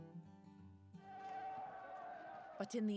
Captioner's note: crowd yelling